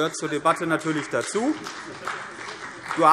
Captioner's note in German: Beifall CDU und vereinzelt BÜNDNIS 90/DIE GRÜNEN